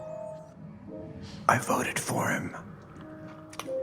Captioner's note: whispered